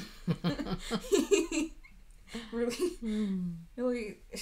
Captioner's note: laughing